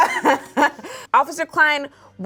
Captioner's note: woman in brown sweater laughing